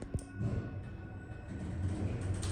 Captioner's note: lift begins moving up